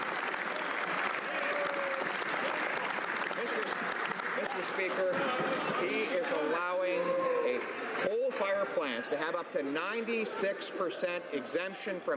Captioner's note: applause